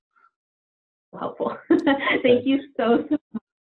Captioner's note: laughs